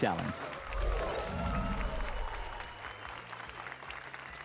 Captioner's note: applause and cheers